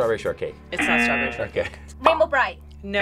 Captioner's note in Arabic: الجرس